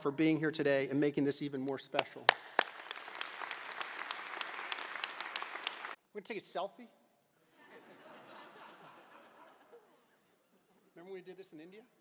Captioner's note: applause